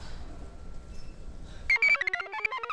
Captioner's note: computer chirps; device beeps